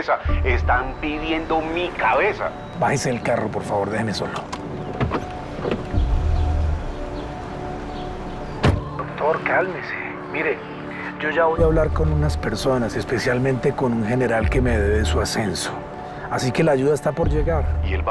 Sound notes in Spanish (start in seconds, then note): 8.4 Sonido al cerrar la puerta